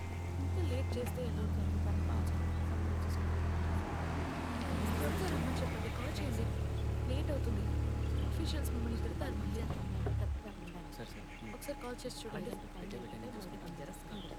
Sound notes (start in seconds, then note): 9.5 doors open